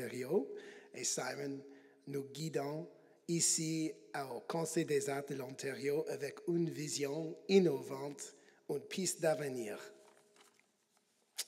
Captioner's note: speaking French